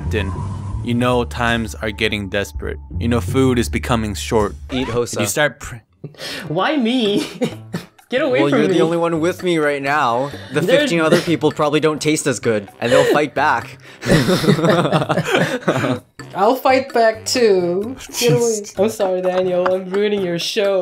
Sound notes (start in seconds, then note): 6.6 adorable giggle; 7.1 more giggles; 14.0 both giggle; 18.0 whisper